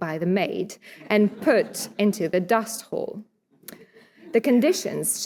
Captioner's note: audience chuckling